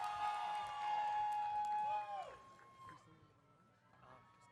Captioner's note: audience cheering